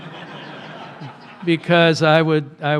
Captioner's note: laughter